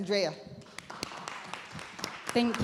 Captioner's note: audience applauding